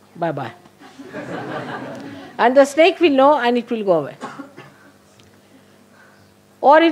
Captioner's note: laughter